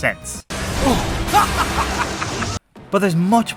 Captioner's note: distressing Hubert laughter